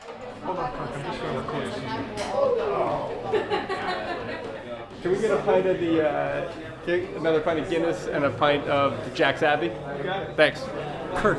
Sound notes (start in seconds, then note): 3.1 speaker laughing